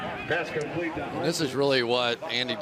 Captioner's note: pa announcement